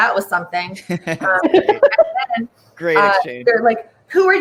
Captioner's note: all chuckle